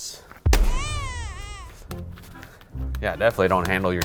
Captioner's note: meat slaps onto pan; baby cries